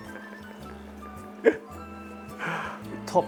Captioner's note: chuckles